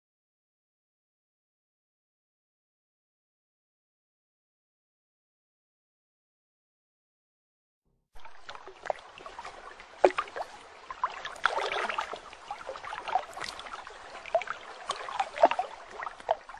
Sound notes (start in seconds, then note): 8.2 water cascading